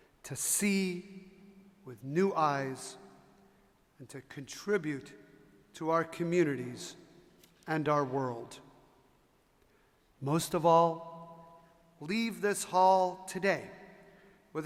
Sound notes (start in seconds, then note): none